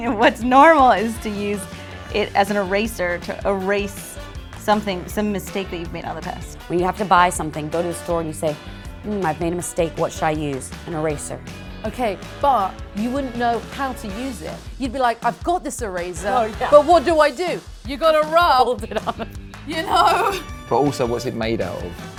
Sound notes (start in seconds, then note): 17.3 laughs; 19.6 laughs